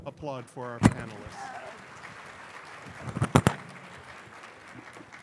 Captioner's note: applause